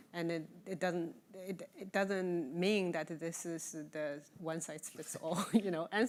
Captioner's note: chuckling